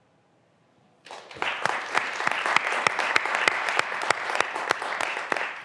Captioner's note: graduands applauding